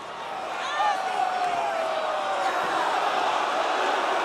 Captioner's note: crowd chatter